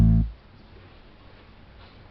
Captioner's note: silence